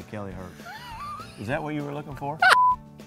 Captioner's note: laughing